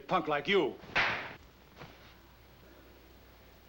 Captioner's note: slapping